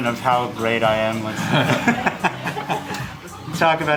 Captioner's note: everybody laughing